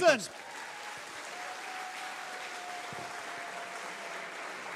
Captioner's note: audience applauding